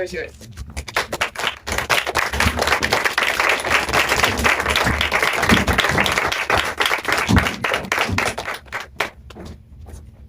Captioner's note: applause